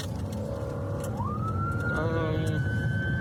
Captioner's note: siren blaring